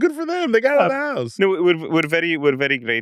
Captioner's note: laughs